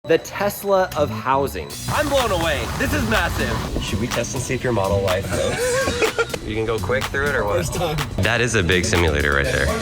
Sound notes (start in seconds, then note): 5.2 laughing